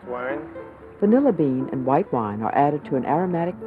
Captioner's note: voiceover